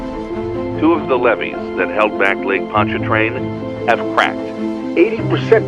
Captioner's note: man 1 on radio